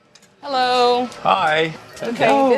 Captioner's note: buzzing